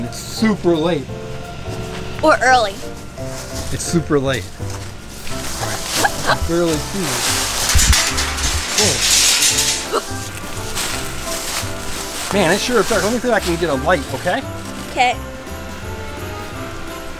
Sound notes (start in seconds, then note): 5.6 assistant chuckles; 7.8 metal clinking; 9.6 assistant gasps